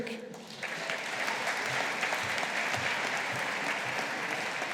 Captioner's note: audience applauding